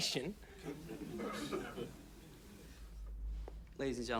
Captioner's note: man coughs